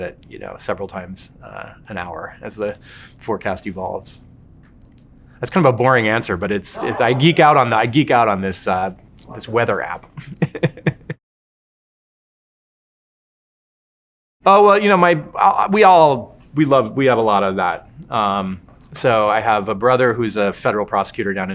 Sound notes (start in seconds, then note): 10.9 laughing